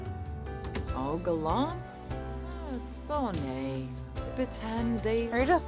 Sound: Chelsea speaking Simlish

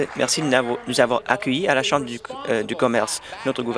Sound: applause

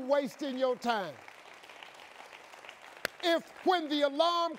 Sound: audience clapping

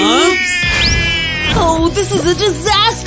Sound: crying; roaring

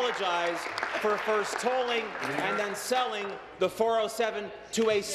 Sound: some Applause

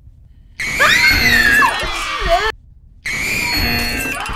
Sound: buzzer; screams; buzzer

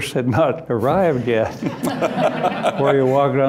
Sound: laughter

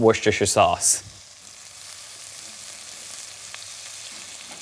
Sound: pot sizzling

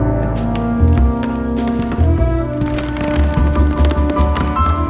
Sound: floor creaking

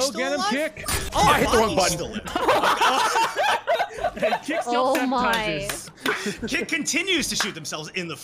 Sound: everyone laughs

